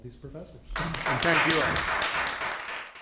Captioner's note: applause